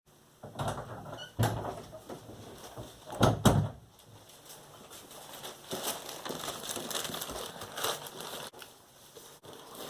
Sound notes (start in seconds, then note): 2.3 door closing; 3.8 plastic bag noises; 8.3 gloves rustling